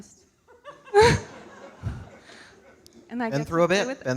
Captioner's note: audience laughing